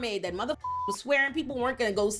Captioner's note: beep